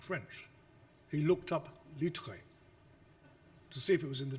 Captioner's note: speaks foreign language